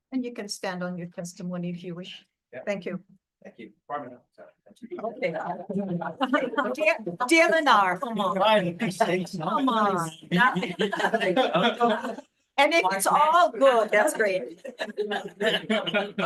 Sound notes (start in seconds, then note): 8.2 attendees chattering